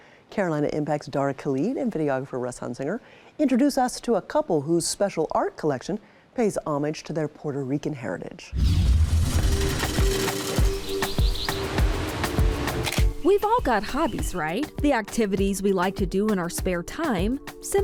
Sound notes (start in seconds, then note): 8.9 machine whirring; 10.3 birds chirping; 11.3 upbeat music; 12.4 waves crashing; 12.8 camera clicking